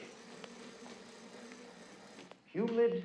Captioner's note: machinery buzzing